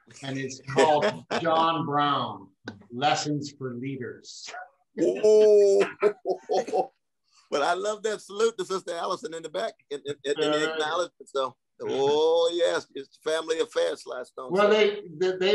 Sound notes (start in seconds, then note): 5.7 laughter